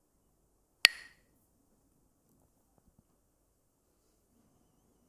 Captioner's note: clacks the sticks